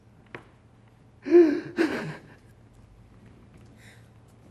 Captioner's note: λυγμός